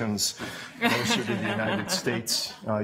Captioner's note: laughter